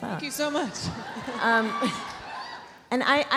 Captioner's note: audience cheering